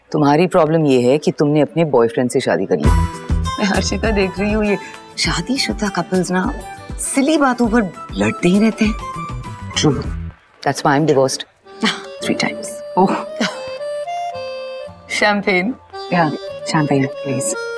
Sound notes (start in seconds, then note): 12.9 Ananya laughs; 12.9 Sheena laughs